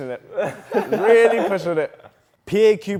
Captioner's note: group laughs